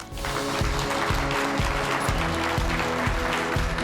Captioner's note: applause